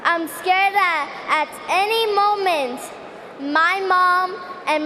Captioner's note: speaking Spanish